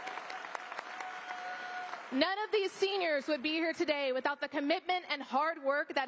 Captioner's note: applause